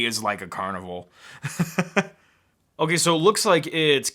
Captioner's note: laughs